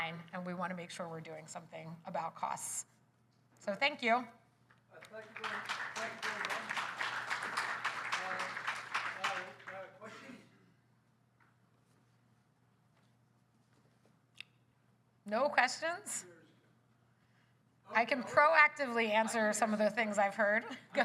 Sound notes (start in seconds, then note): 5.0 applause